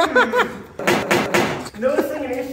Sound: bonk

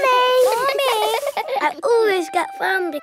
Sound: all giggling

